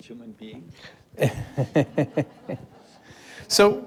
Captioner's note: all chuckling